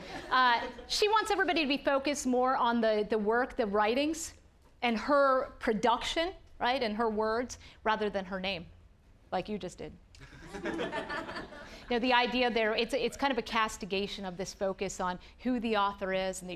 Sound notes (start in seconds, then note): 10.2 audience laughing